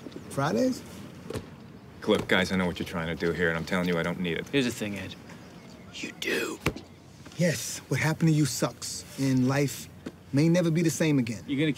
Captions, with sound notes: Look, guys, I know what you're trying to do here, and I'm telling you I don't need it. Here's the thing, Ed. [ Whispering ] You do. Yes, what happened to you sucks. And life may never be the same again.